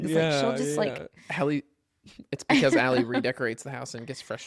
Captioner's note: laughs